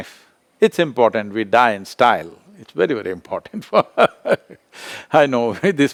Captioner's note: laughs